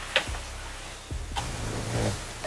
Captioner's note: snoring